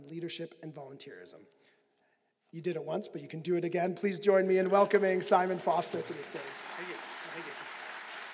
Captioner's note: applause